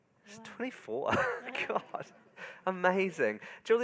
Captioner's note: laughs